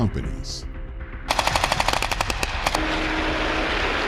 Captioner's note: gun shots